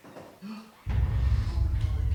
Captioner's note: gasps